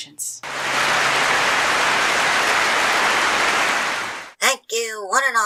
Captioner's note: clapping